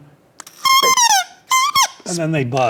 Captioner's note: reed whistling